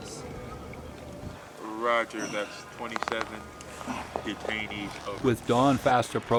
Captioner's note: marine on radio; voiceover